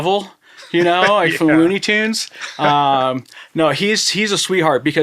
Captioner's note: laughing